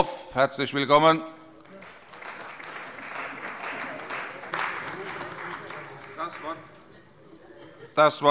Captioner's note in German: Beifall